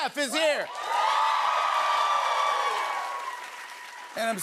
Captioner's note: cheers and applause